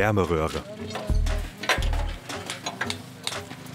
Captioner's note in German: Klackern